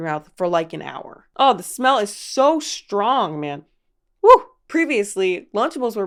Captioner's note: exclaims